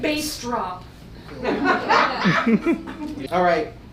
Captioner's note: audience laughs